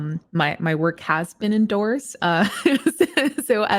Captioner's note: chuckles